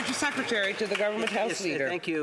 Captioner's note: applause